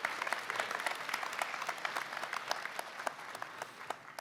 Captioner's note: applause